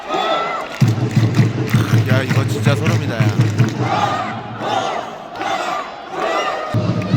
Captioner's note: Bitgoeul supporters continue to cheer enthusiastically!